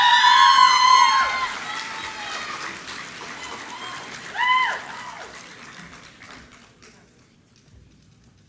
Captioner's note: applause